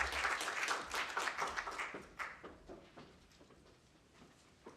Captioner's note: applause